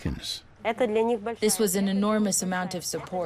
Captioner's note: speaking in foreign language